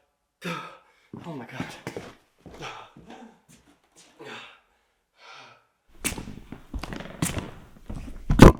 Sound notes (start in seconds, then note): 2.5 panting